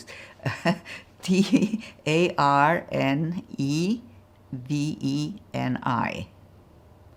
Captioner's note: laughing